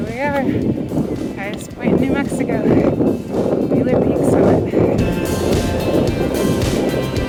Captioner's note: heavy wind noise